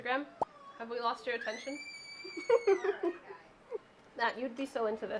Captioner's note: laughs